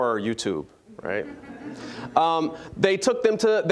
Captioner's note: audience chuckling